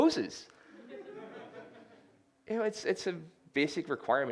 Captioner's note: laughter